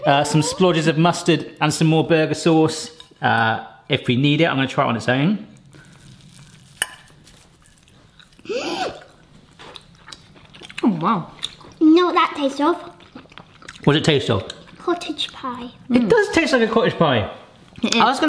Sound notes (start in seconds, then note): 8.4 gasping